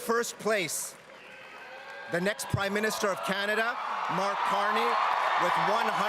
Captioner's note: cheering and Applause